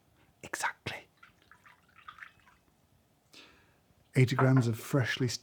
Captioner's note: water trickling